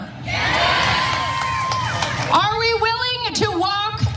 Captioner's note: applause